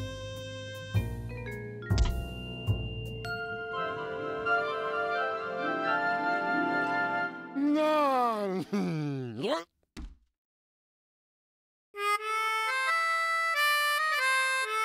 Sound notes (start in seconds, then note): 1.9 ringing; 7.6 mumbles happily; 8.0 grunts; 11.9 jazzy tune